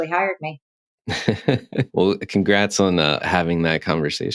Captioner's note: laughs